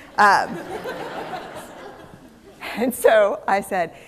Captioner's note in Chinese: 笑聲